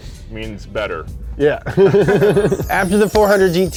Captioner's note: laughter